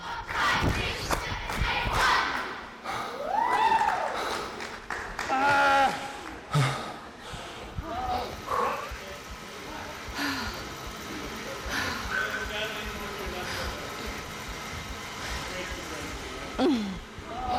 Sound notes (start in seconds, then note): 3.3 people cheering; 8.2 sighs and breathes heavily